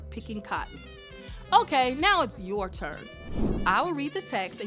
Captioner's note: air whooshes